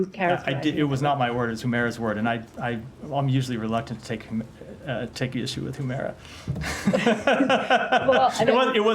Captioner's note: laughter